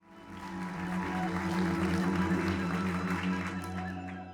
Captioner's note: applause